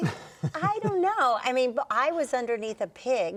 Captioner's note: chuckling